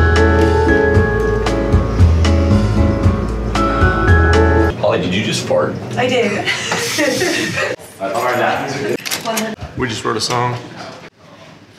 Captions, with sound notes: - Holly, did you just fart? - I did. (both laugh) - We just wrote a song.